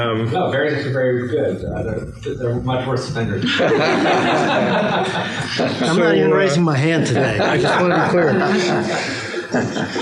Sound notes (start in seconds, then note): 3.4 laughter